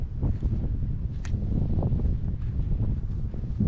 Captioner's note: wind